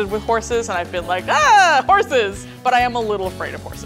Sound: yelling

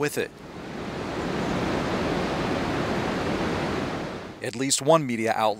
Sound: water rushing

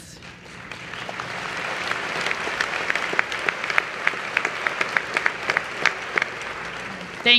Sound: applause

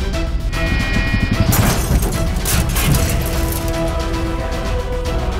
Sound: car horn honking; glass shattering

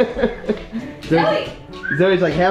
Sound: laughs; whistles

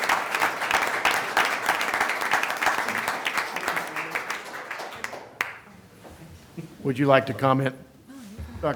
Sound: applause

